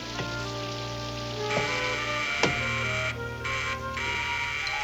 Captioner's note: buzzing